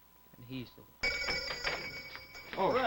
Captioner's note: shop doorbell ringing